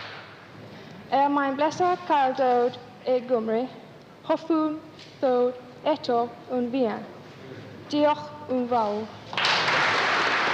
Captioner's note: foreign language; applause